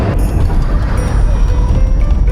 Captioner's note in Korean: 급제동걸리는 소리